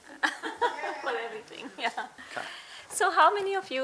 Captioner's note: laughing